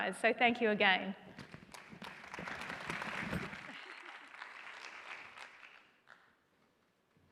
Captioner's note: applause